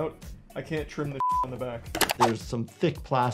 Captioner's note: beep